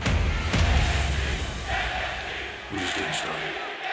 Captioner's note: fans chanting